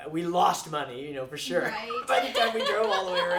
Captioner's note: laughs